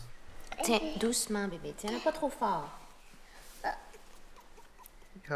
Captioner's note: speaking in French